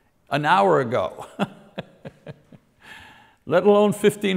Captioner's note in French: rire